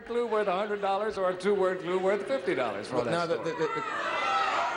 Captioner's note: audience clamoring